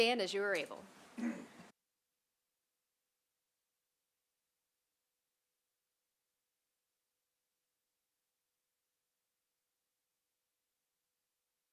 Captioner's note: silence